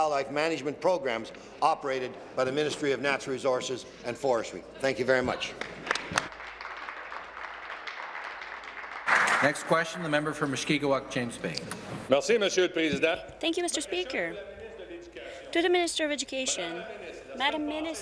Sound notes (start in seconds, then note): 9.7 applause